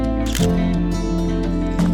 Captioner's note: camera shutter clicks